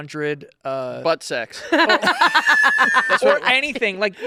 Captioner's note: laughing